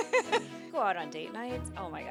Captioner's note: laughing